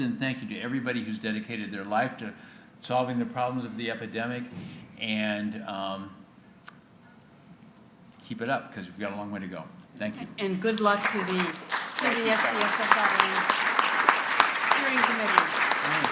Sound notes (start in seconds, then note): 10.4 applause